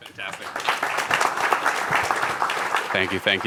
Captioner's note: applause